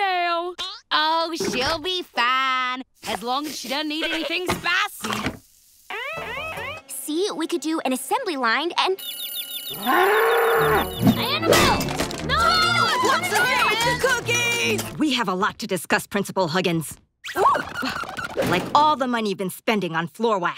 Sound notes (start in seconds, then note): 9.7 mooing